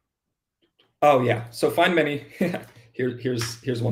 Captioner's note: laughs